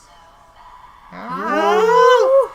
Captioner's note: scream